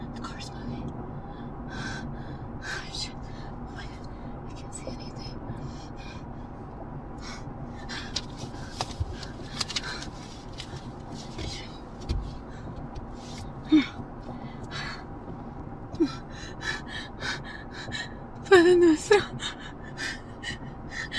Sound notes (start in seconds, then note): 8.2 rustling; 16.9 hyperventilating; 18.5 sobbing